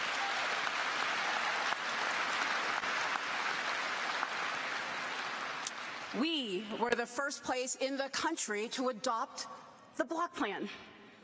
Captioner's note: cheers and applause